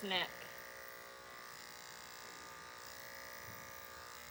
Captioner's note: clippers buzzing